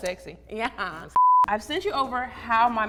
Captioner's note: beep